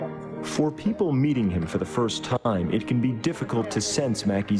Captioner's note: voiceover